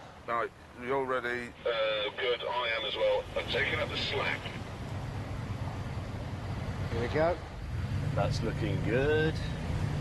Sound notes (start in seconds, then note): 4.9 engines idling